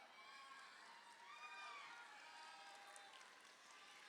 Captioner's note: crowd cheering